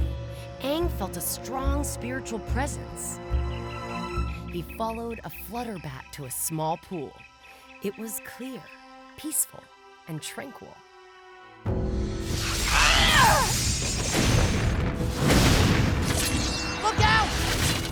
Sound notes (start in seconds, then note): 12.5 grunting